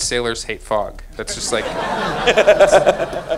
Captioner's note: audience laughing